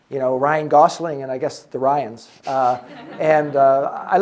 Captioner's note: audience members chuckling